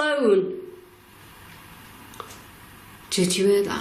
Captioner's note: static pauses